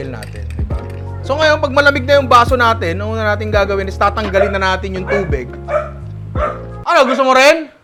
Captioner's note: dog barking